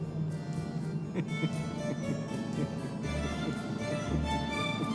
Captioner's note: Radovan laughs